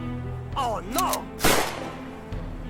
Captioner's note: gunshot